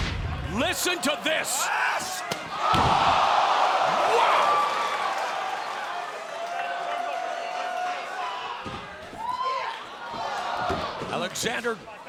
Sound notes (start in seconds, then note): 1.9 shouting; 2.8 crowd exclaiming; 10.3 crowd exclaiming